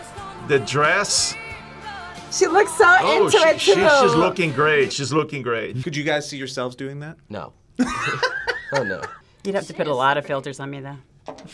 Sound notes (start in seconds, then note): 7.8 React laughs